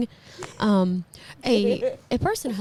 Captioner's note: laughing